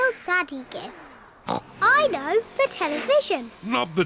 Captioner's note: oinks